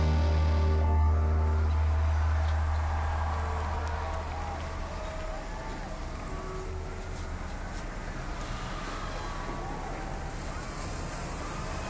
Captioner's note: crowd cheering